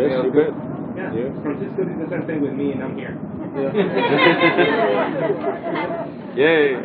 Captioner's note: mescitte gülüşmeler